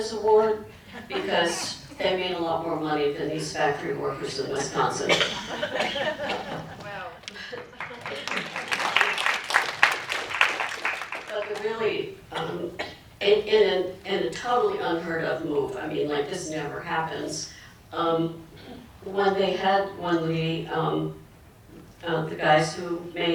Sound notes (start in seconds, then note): 6.7 applause